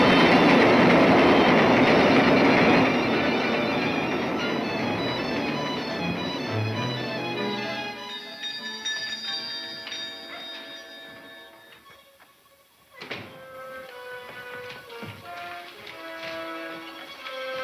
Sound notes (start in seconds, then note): 7.4 bells chiming